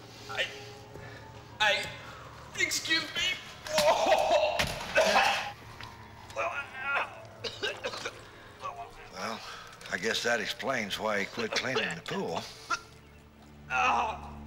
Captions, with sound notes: Oh... I... I... Excuse me. ( retching ) well, I guess that explains why he quit cleaning the pool.